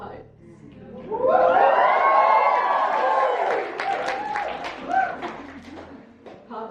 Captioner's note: audience cheering